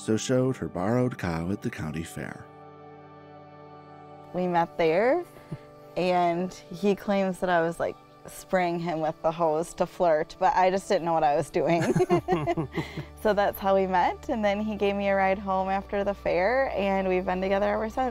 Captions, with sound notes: so showed her borrowed cow at the county fair. - We met there, and he claims that I was, like, spraying him with the hose to flirt, but I just didn't know what I was doing. [both laugh] So that's how we met, and then he gave me a ride home after the fair, and we've been together ever since,